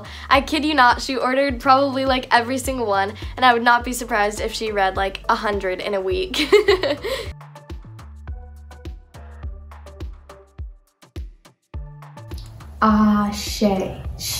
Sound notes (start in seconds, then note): 6.4 laughs; 7.3 techno music beat